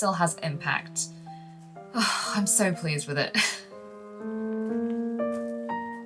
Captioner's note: sighs